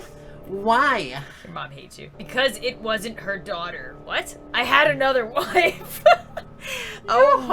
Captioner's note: lols